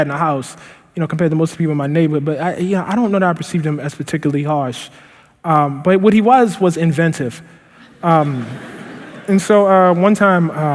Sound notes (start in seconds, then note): 7.8 laughter